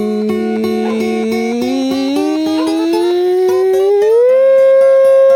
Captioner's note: high pitch humming